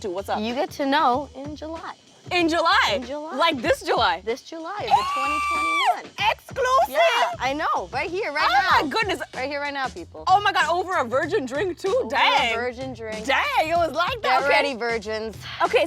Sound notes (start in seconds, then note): 4.8 screaming